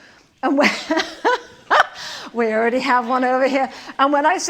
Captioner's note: laughs